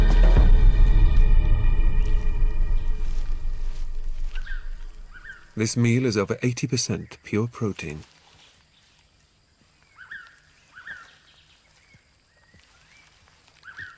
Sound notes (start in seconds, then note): 9.6 birds chirping